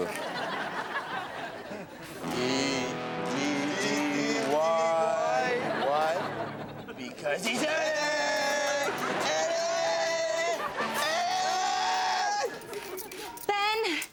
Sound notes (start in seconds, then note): 0.0 audience laughs; 9.7 audience laughs